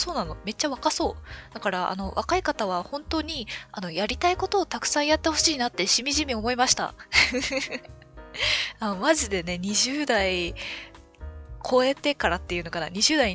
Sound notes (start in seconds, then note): 7.2 laughs